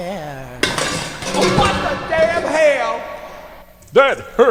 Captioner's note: crash